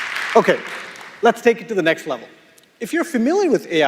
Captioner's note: applause